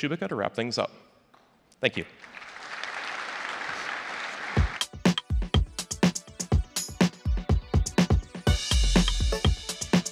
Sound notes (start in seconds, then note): 2.1 applause; 4.6 instrumental music